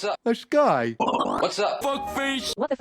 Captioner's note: "whoa" stuttering; female text to speech voice